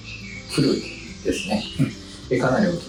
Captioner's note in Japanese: 咳払い